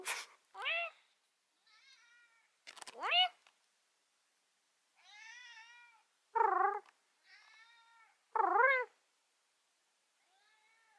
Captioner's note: me making meowing noises and my cat meowing back a few times